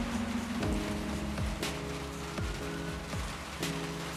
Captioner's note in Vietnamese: tiếng còi đằng xa